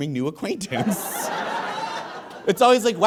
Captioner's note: audience laughs uproariously